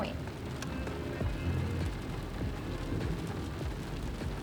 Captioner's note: rain pattering